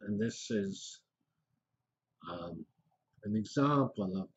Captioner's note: pause